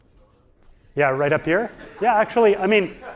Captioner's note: audience laughing